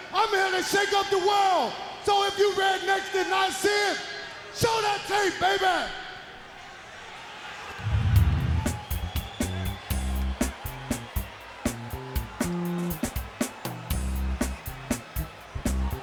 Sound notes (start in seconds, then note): 6.0 crowd cheering; 8.1 fun funk music; 13.0 crowd cheering